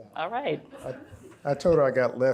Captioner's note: audience laughs